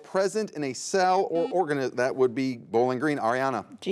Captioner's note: buzzer buzzes